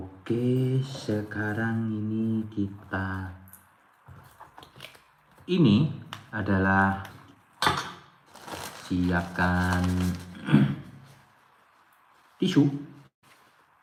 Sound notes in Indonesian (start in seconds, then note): 10.4 berdehem